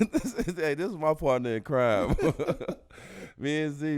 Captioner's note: laughs; laughs